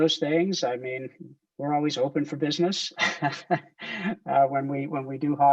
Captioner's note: laughs